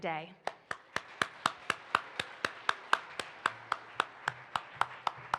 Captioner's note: participants applaud